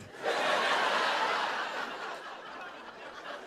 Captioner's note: laughter